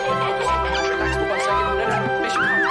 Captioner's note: laughing; indistinct chattering